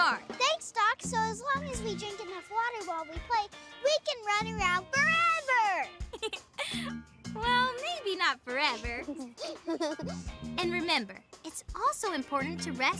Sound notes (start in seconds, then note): 5.9 giggles; 8.9 giggling